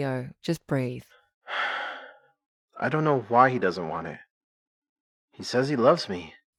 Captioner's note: deep breaths